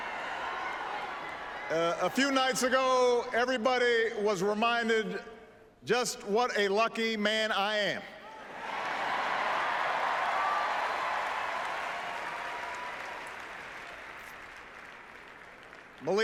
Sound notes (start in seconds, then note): 10.7 applause